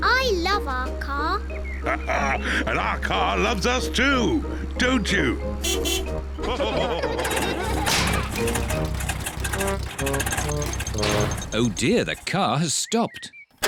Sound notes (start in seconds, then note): 1.8 laughs; 5.5 toots beeps; 6.4 all laugh; 7.0 engine sputters